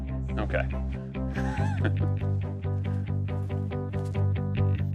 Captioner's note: laughs